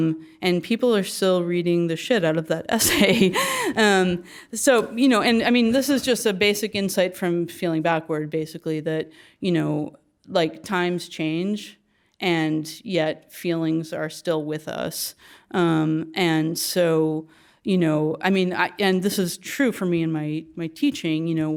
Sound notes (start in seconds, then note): 2.8 laugh